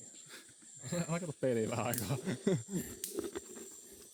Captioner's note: laughs